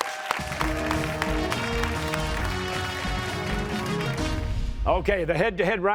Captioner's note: cheers and applause